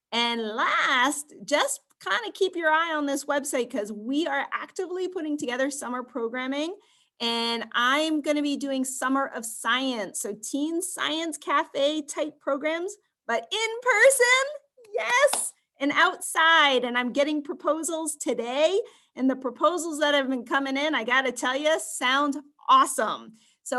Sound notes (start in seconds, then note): 14.9 clapping hands